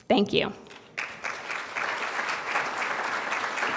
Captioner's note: applause